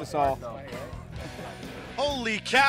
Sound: laughter

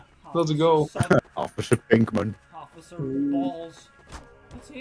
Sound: laughing

